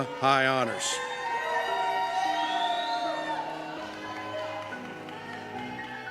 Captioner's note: cheers